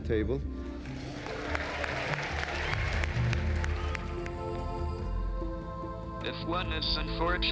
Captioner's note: applause